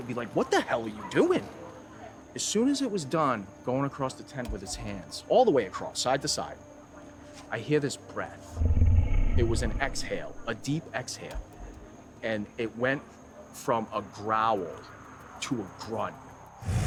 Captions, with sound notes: and be like, what the hell are you doing? As soon as it was done going across the tent with its hands all the way across side to side, I hear this breath. (Bigfoot snarling) It was an exhale, a deep exhale, and it went from a growl to a grunt.